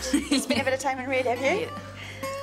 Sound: laughs

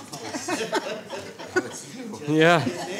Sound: laughing

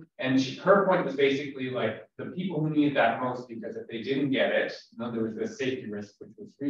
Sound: audio cutting out

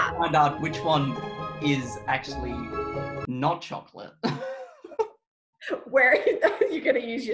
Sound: laughs

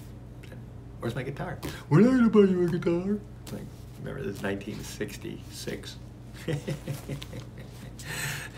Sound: laughs

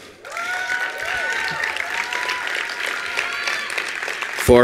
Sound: attendees applauding

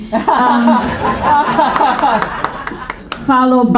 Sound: audience laughing

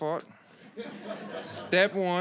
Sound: audience laughs

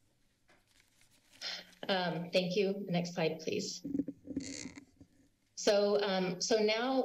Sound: exhales

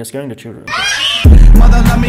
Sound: screams

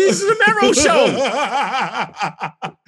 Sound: the kid mero laughs

